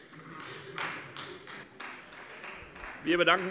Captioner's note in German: Beifall Freie Demokraten